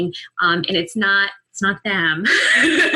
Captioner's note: laughter